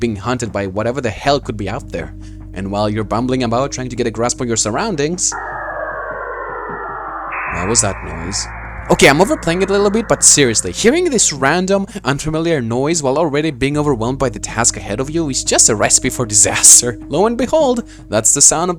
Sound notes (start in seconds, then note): 5.2 Starling Spawn Noise